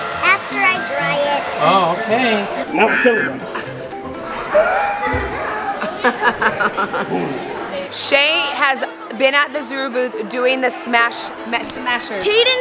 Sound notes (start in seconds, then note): 2.6 screams and laughs